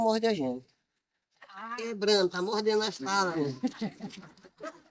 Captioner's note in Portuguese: risadas